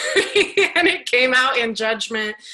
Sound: laughs

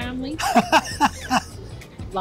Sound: laughs

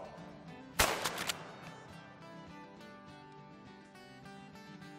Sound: gunshots

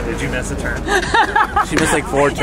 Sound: loudly laughs

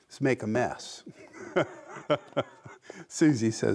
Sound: laughs

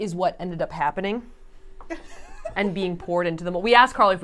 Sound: laughing

